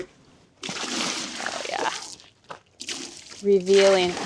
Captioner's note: liquid splashing